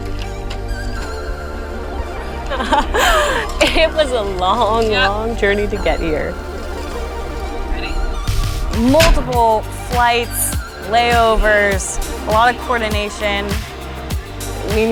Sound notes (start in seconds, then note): 0.3 upbeat music; 2.3 laughs; 13.8 upbeat music